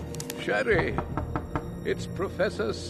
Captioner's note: knocking